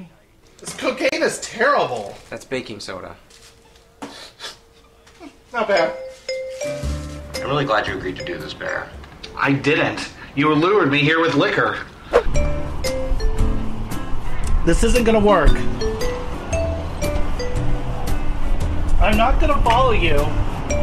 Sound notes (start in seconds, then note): 4.0 sniffs